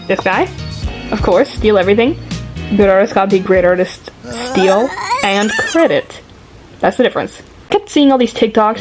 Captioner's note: shivering sound